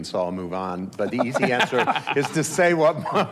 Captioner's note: laughs